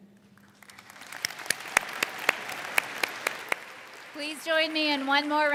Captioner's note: all clap